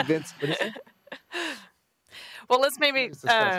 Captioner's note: laughter